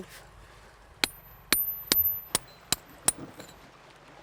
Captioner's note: hammer tapping